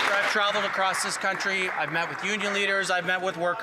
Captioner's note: some Applause